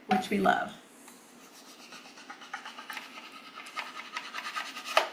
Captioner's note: knife rustling